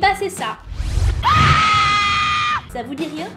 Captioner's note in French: cri